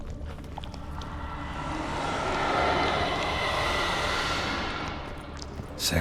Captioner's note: ghostly noise